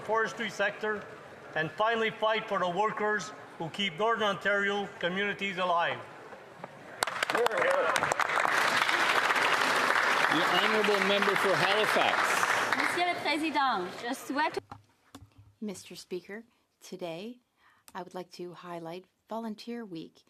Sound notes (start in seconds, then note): 13.9 applause